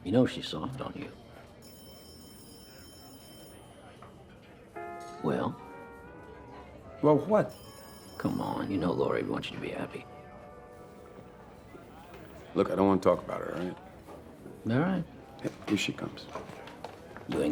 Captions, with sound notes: YOU KNOW SHE'S SOFT ON YOU. [TELEPHONE RINGING] WELL? WELL WHAT? COME ON, YOU KNOW LORI WOULD WANT YOU TO BE HAPPY. LOOK, I DON'T WANT TO TALK ABOUT HER, ALL RIGHT? ALL RIGHT. HERE SHE COMES.